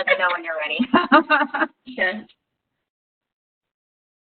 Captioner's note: laughs